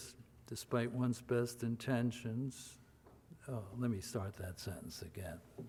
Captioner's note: none